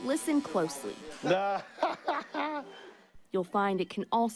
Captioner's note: barber laughing